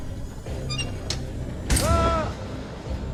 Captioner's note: switch squeaks